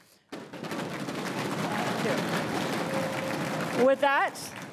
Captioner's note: crowd cheering and applauding